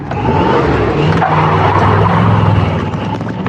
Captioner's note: tiresqueal